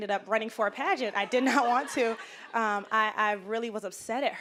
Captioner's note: audience laughing